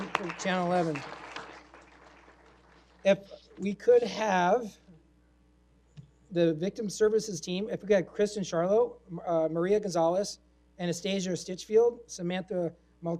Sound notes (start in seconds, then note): 1.5 applause